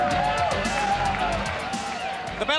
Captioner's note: crowd cheering